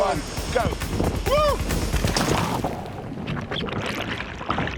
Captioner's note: shouting